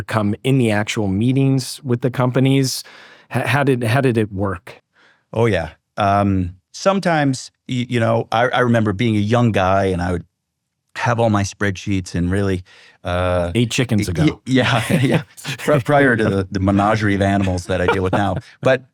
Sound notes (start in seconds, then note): 14.0 both laugh